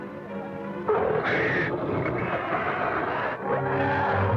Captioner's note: growling